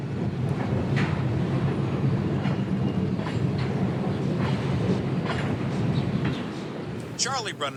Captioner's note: train sound